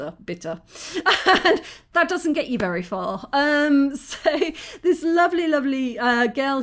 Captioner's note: laughing